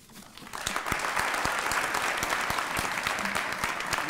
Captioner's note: applause